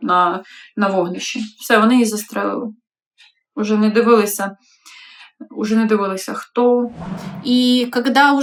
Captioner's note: Russian